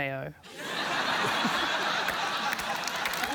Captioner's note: laughter